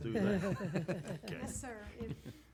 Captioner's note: members laugh